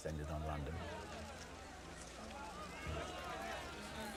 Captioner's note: loud chatter